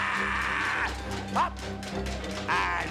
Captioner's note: laughing